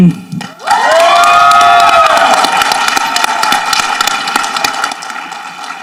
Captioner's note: people applauding and cheering